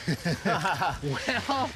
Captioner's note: laughing